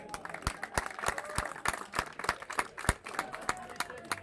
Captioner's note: applause